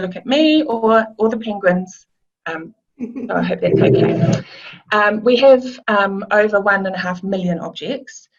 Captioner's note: laughs